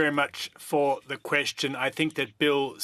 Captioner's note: speaking French